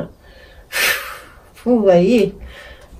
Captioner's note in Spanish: hace sonido de soplar